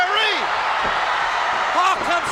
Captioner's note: crowd cheer